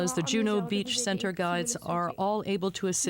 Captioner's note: speaking French